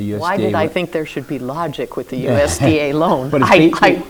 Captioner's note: chuckles